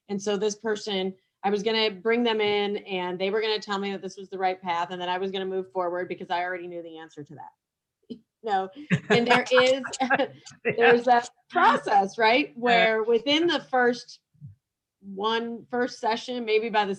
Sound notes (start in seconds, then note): 8.8 laugh